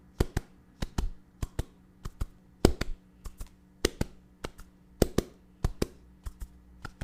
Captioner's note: ASMR head scratch sounds